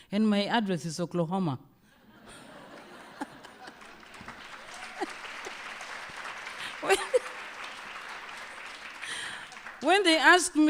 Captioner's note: laughter, applause